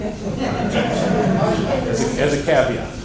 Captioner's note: laughter